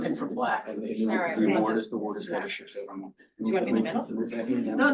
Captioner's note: quiet chatter